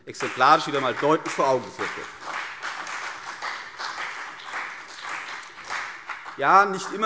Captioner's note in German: Beifall CDU und BÜNDNIS 90/DIE GRÜNEN